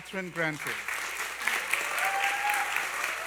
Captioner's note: applause